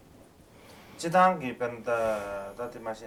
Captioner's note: non-english speech